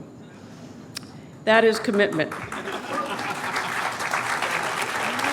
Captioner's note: applause